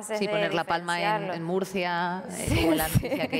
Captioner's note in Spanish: riendo